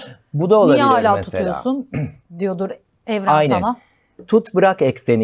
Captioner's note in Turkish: boğazını temizler